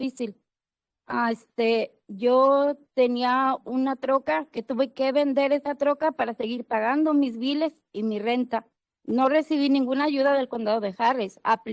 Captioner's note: speaking Spanish